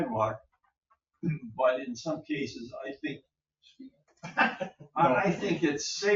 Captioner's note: laughs